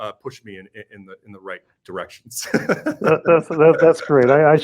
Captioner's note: laughs